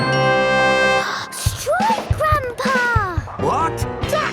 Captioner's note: gasps